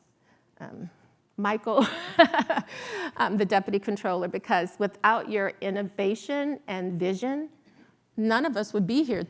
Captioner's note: laughs